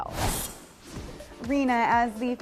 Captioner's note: screen whooshes